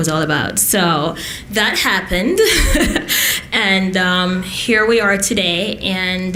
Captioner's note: laughs